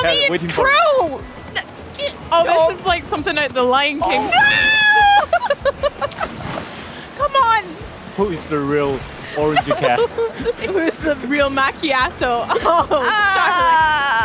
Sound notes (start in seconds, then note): 1.6 laughter